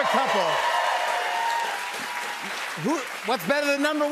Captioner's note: cheers and applause